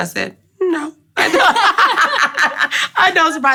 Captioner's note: laughing